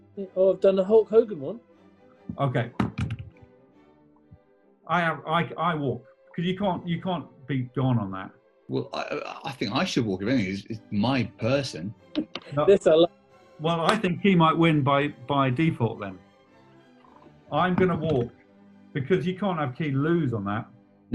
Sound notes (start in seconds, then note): 13.7 laughs and claps